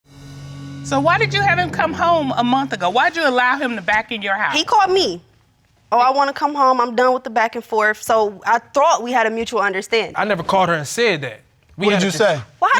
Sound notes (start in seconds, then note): 0.6 audience exclaiming